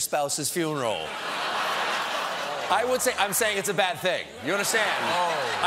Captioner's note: laughter